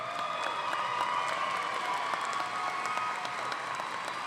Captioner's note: audience applauding